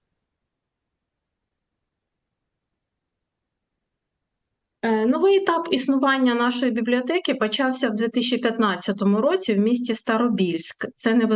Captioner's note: foreign language